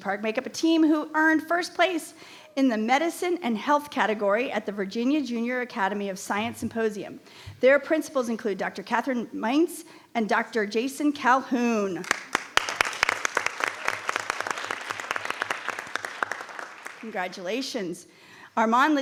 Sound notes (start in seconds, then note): 12.0 audience applauding